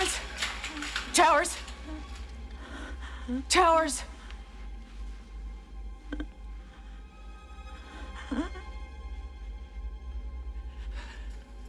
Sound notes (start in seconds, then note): 1.8 gasping; 7.8 gasping Slows